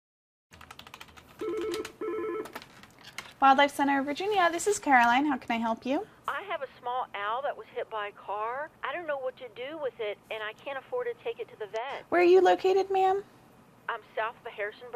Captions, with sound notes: (phone ringing) >>Wildlife Center of Virginia. This is Caroline, how can I help you? >>Where are you located. ma'am?